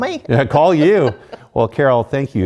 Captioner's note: laugh